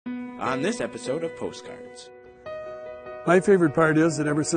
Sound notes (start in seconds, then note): 1.3 voiceover